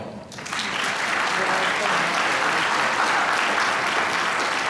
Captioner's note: applause